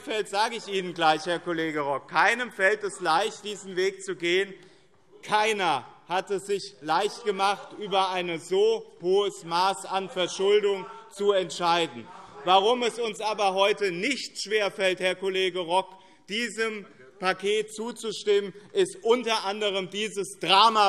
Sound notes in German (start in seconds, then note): 11.8 Anhaltende Zurufe